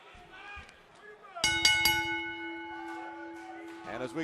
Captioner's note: bell ringing